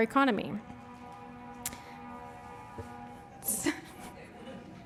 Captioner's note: firetruck siren blares